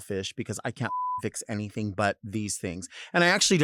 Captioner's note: beep